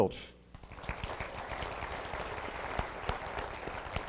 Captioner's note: applause